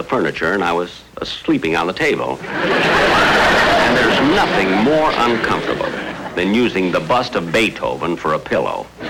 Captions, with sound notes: furniture and I was... sleeping on the table. (Audience Laughing) And there's nothing more uncomfortable than using the bust of Beethoven for a pillow.